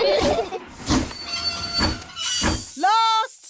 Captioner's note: laugh; train chugs